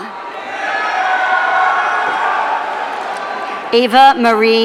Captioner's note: audience cheering